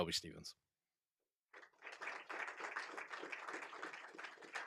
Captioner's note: applause